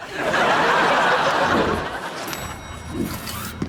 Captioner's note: audience laughs